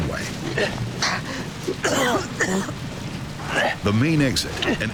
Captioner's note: man coughing